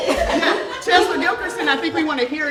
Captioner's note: chatter